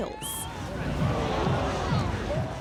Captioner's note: crowd groaning